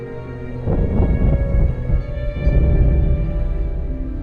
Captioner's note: ominous instrumental music continues; thunder rumbling